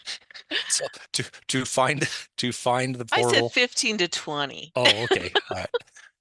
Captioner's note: laughs